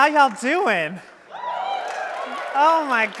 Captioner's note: audience cheering